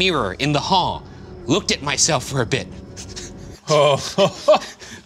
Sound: laughs

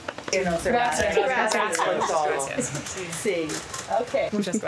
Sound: speaking foreign language

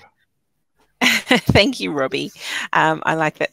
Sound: laughing

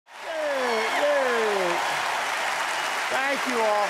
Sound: audience cheering

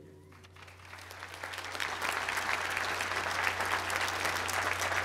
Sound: applause

